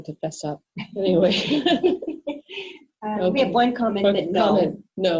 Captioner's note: laughs